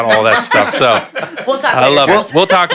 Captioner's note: panelists laughing